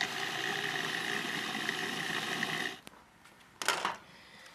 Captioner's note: food processor grinds